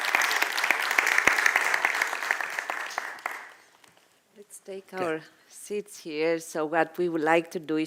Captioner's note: applause